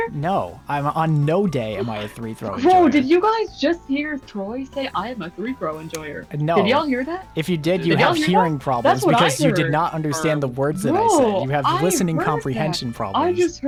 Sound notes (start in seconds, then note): 6.3 smacks lips